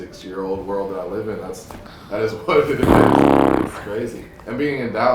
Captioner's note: Gary blows lips